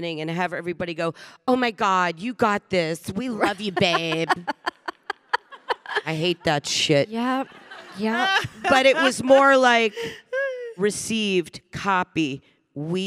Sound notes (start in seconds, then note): 3.3 Samantha laughing; 7.4 audience laughing